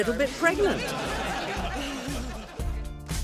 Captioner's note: laughter